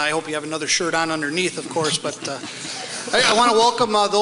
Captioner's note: audience laughs